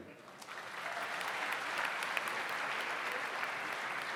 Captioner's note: audience applauds